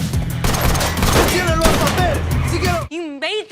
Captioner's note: gun shots firing; man shouting in foreign language